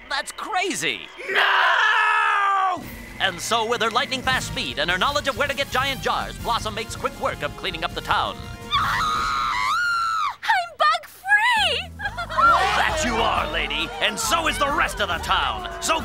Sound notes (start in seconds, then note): 8.7 screams; 12.0 all cheer